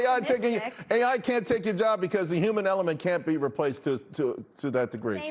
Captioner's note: laughter